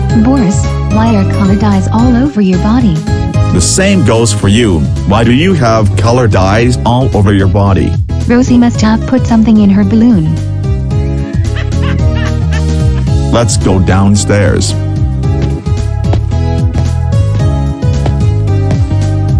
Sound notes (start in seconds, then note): 11.2 Caillou & Rosie laughing; 15.2 footsteps